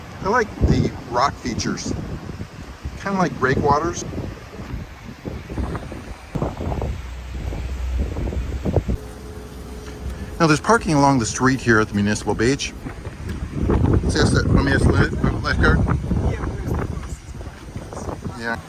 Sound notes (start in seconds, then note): 5.1 waves lapping; 5.1 wind whistling; 13.5 wind whistling